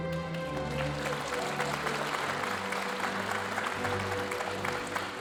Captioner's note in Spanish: aplausos de la audiencia